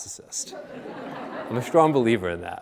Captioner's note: audience laughing